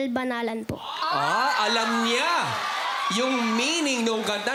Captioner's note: crowd cheers